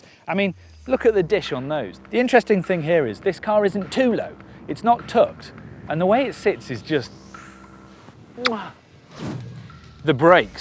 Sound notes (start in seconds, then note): 8.4 lip-smacking noise